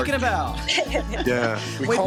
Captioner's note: laughs